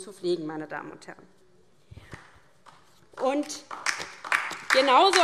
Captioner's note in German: Beifall DIE LINKE